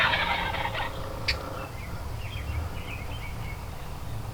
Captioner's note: turkeys gobble